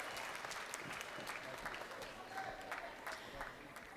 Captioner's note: crowd applauding